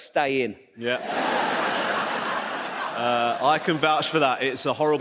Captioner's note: audience laughs